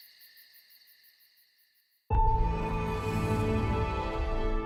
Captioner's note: crickets chirping